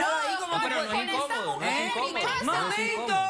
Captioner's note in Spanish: Hablan al unísono